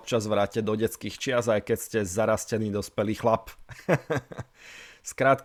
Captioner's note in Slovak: smiech